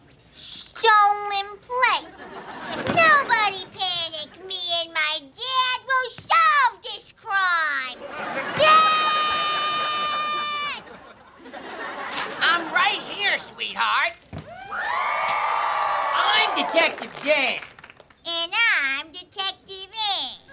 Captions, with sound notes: Stolen plate? Nobody panic, me and my dad will solve this crime! Dad! I'm right here, sweetheart! [cheering] I'm Detective Dan. And I'm Detective Anne.